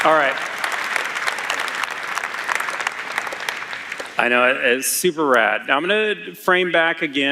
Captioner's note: cheers; applause